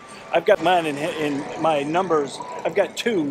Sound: laughs

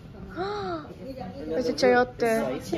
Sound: gasp

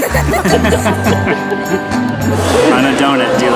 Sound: laughing

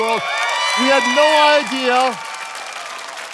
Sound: congregation cheering

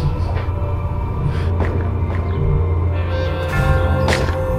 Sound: weapon firing

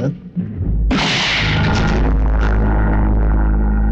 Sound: gunshot

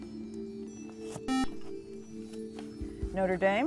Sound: buzzer

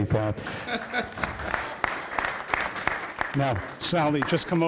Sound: audience applauding

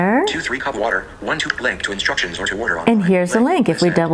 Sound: VoiceOver speaking

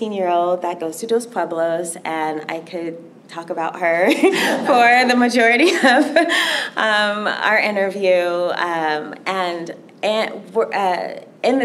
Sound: laughter

